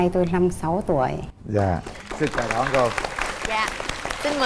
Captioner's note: applause